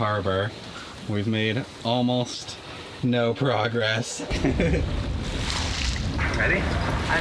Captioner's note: laughs